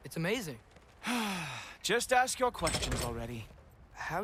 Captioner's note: sigh